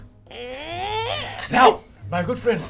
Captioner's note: imitates creaking